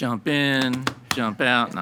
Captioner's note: hands slapping